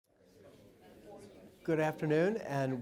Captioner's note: audience conversing in background